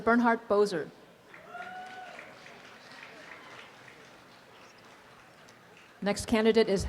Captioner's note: applause and cheering